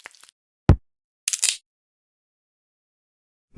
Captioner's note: crack